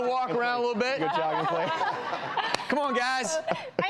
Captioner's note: laughing